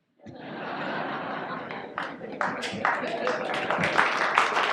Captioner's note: audience laughs, applauds